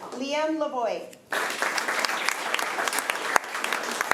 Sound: applause

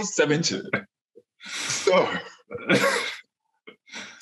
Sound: laughs

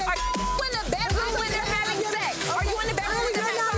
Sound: beep

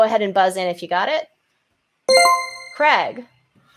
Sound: chime rings

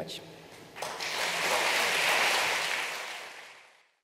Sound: crowd applauding

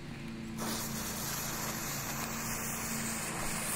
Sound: hissing

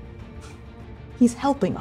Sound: exhaling tightly

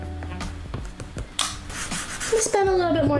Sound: marker on paper sound

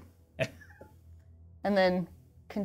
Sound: laughs

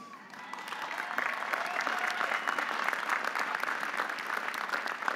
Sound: audience applauding

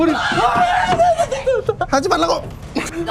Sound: screaming

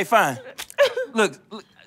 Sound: splat

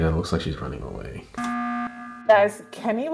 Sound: emergency horn

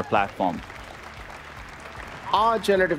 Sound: applause

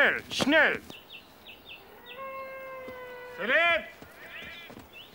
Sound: speaks in foreign language

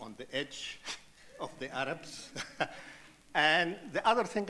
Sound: chuckles; audience laughing

